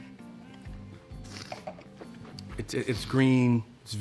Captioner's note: slurps and swishes wine